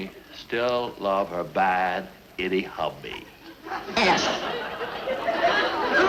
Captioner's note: audience cheering and laughing